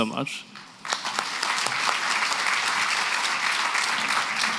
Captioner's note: applause